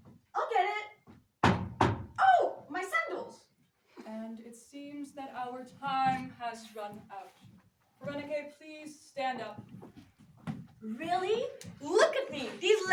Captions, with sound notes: I'll get it! [knock] Oh, my sandals! -And it seems that our time has run out. Pherenike, please stand up. -Really? Look at me!